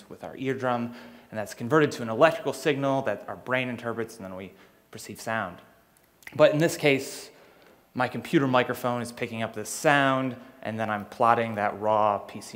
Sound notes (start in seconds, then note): none